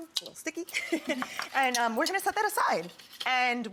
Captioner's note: laughs